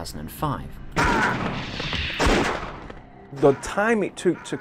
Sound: gun fire

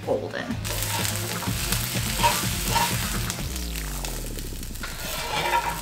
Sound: ingredients sizzling

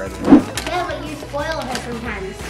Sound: air whooshing

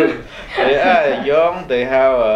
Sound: laughs

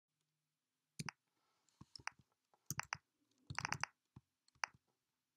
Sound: keyboard typing

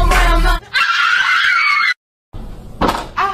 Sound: they scream

